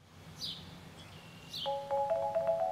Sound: birds chirping; bright music

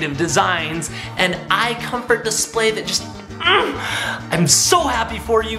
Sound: grunts

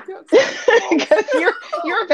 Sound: laughs

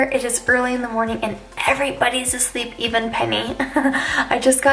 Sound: laughs

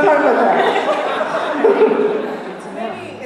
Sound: laughter

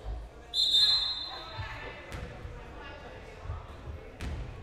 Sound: whistle blowing

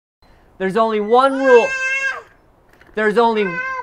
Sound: toddler yells loudly

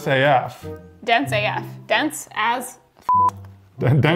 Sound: beep

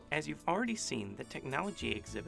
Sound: voiceover

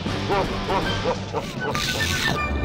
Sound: evil laughing

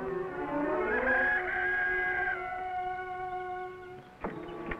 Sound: rooster crowing

